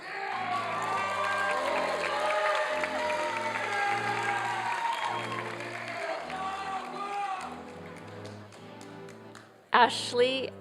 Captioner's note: applause